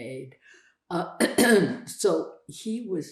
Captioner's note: clears throat